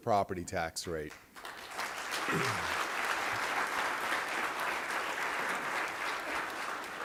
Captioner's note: applause